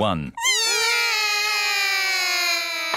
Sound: all cry

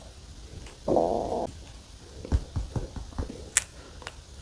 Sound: growling

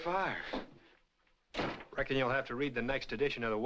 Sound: door slam

